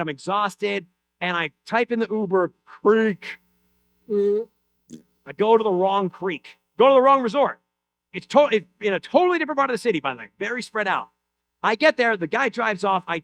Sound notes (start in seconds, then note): none